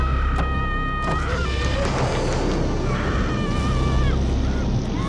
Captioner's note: door creaking; moves to dramatic theatrical music